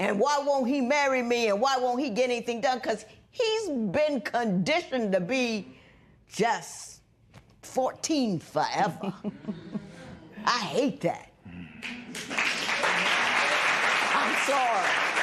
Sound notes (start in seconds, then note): 9.8 spectators murmur; 15.0 applause